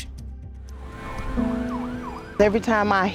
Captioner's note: mellow music; siren wailing